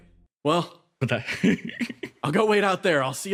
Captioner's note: laugh